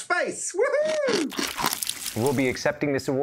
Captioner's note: chomping sound